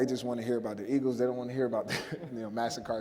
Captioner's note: laughs